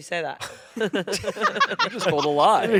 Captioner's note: everyone laughing